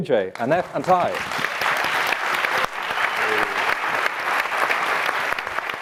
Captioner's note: audience clapping